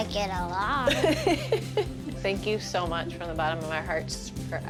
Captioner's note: laughs